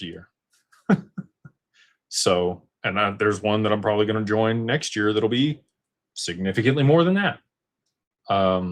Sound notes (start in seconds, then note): 0.8 laughter